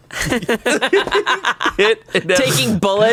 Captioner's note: laughs